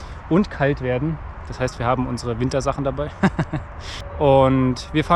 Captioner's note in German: lacht